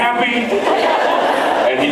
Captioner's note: laughs